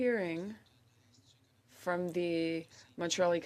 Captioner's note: speaking French